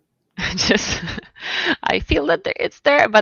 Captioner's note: laughs